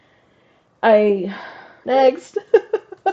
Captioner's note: sigh; laugh